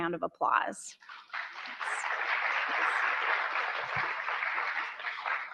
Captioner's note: audience applauds